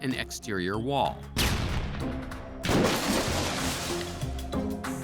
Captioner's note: loud explosion